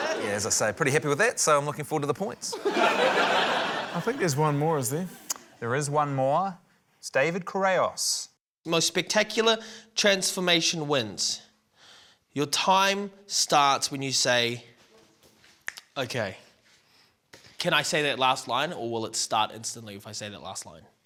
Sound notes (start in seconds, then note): 2.5 laughter; 15.6 snaps fingers